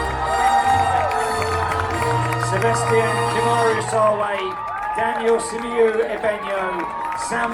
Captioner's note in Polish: Aplauz